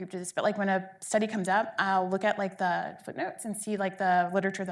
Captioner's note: none